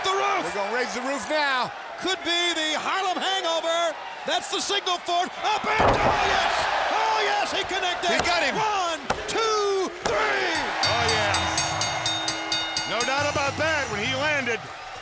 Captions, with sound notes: We're gonna raise the roof now. Could be the Harlem hangover. That's the single for up and down. Yes! Oh yes he connected! He got him. One, two, three. (bell dings) Oh yeah. No doubt about that, when he landed,